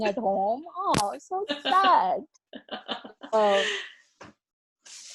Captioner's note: laughs